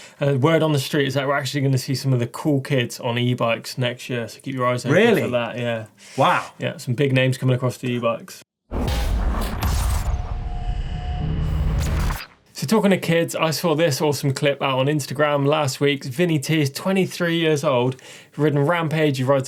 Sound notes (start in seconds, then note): 8.8 electronic rumbling